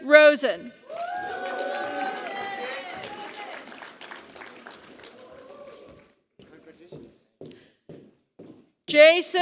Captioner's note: applause